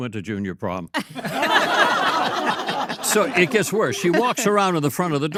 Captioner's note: all laugh